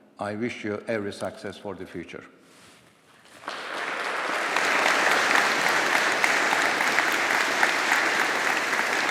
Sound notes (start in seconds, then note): 3.3 audience applauding